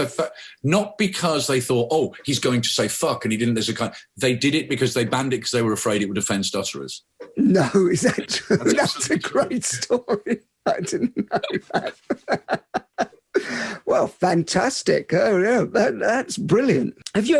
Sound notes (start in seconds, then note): 10.7 both laughing